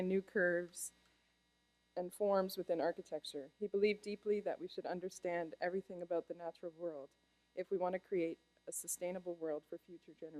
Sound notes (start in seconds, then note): none